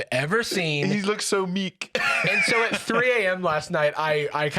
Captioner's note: laughs